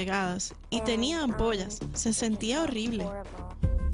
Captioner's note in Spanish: habla en inglés